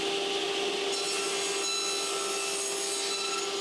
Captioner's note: saw screeching